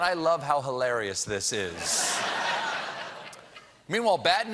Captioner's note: laughter